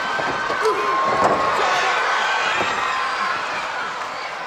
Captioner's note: person thudding